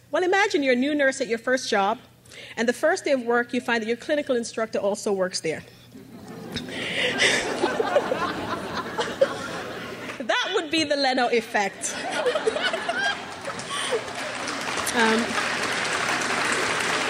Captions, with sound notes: Well, imagine you're a new nurse at your first job, and the first day of work, you find that your clinical instructor also works there. (crowd laughs) That would be the Leno Effect. (crowd applauds)